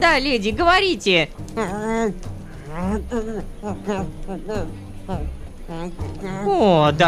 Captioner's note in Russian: злобно мычит